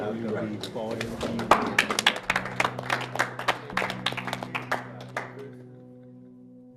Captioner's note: applauding